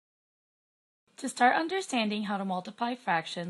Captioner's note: voiceover